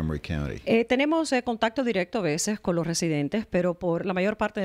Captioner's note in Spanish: Hablando ingl\s